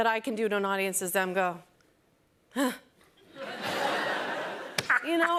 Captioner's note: laughs; chuckles